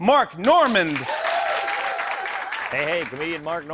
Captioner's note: cheers and applause